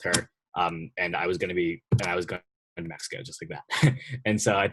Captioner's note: chuckling